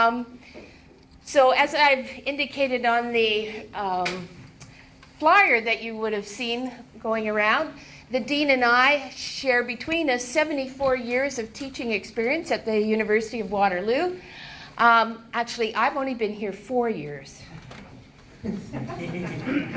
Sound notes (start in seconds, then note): 18.4 laughter